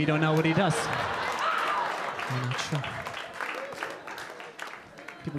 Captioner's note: audience applauding